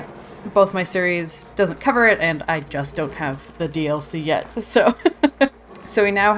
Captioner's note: laughs